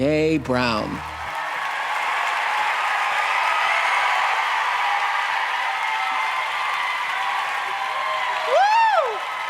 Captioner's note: cheers and applause